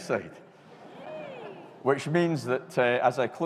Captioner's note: audience cheering